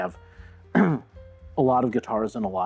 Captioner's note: ahem